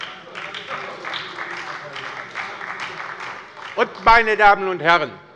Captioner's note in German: Beifall bei der LINKEN und der SPD - Zurufe von der CDU